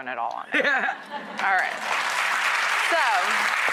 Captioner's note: audience claps